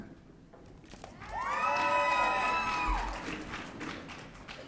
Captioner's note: audience cheering